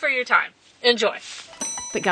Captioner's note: bell dings